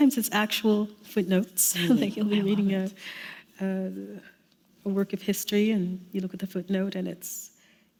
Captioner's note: chuckle